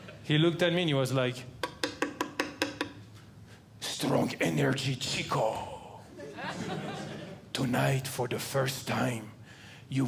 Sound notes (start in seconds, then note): 1.6 tapping; 6.2 audience Laughing